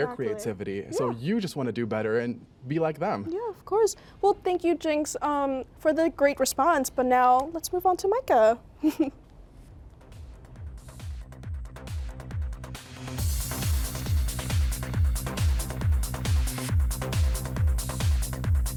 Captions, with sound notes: and their creativity. - Exactly. - And so you just wanna do better and be like them. - Yeah, of course. Well, thank you, Jinx, for the great response, but now let's move on to Micah. (chuckles) (energetic music)